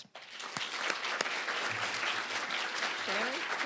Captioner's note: applause